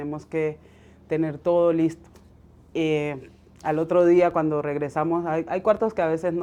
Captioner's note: speaking Spanish